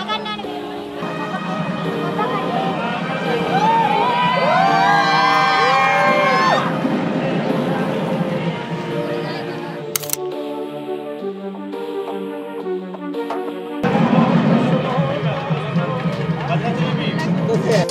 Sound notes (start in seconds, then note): 4.4 cheering; 13.8 traditional music